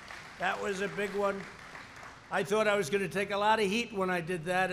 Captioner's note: applause